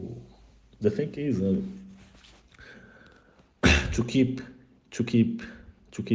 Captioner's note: suspira